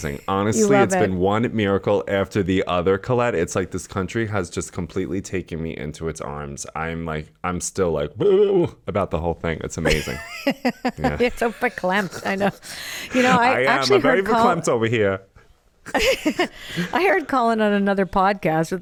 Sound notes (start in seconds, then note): 8.0 burbles; 9.8 laughs